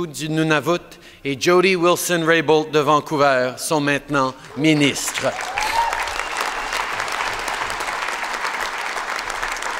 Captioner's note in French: Applaudissements